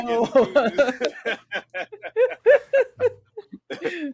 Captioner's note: all laughing